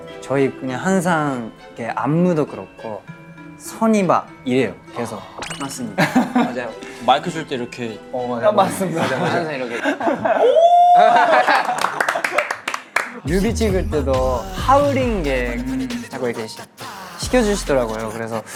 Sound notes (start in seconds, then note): 10.3 big howling; 11.4 laughing